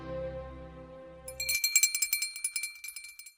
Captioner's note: bell ringing